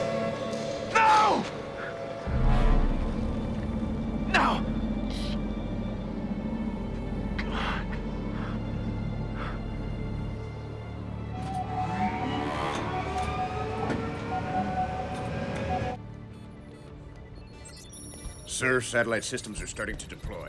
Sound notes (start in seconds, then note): 11.1 satellites powering up